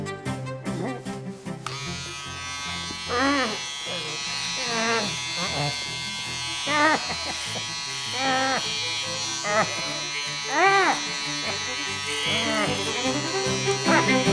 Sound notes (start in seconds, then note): 0.3 sounds of struggling; 3.1 buzzing of a hair trimmer; 10.2 sounds of struggling